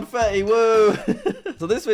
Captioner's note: laughs